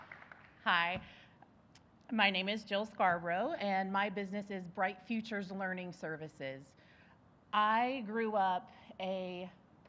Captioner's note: applause